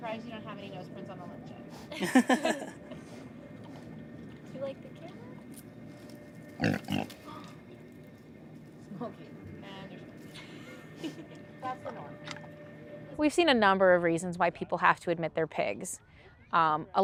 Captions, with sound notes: > I'm surprised you don't have any nose prints on the lens yet. [Laughter] [Smokey snorts loudly] > We've seen a number of reasons why people have to admit their pigs.